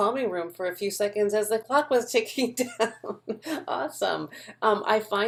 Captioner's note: laughs